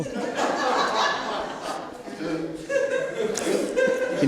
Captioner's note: laughter